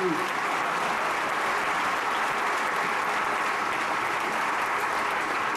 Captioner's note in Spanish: aplausos